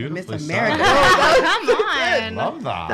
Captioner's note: laughing